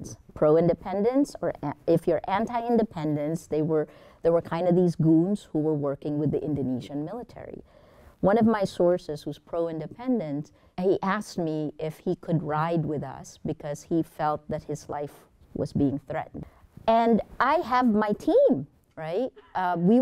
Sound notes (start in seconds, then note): none